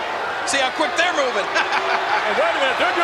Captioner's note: laughs